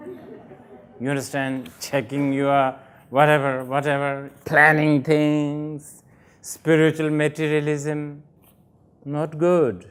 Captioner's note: laughter